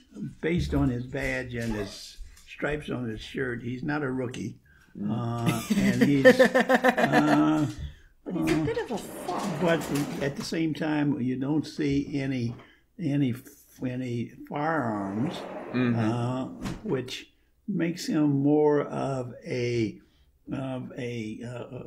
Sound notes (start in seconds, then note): 5.4 laughter